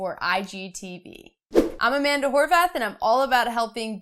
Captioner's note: air whooshing